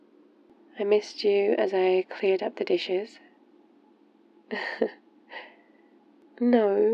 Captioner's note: laughs